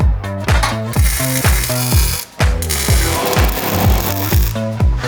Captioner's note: weld zapping